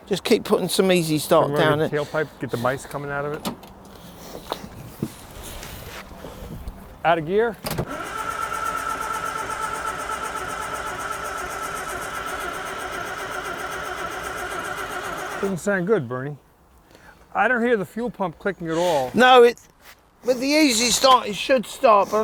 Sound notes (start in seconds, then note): 8.4 engine rumbling